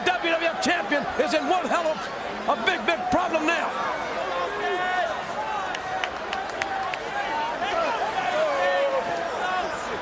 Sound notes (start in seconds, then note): 5.3 fans clapping